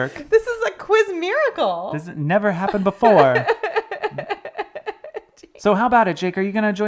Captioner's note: laughs